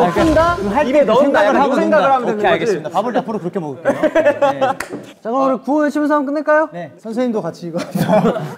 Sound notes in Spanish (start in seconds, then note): 3.8 Jajajajajajajaja